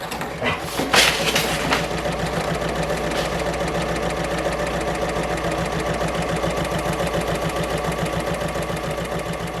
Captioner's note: sewing Machine Sounds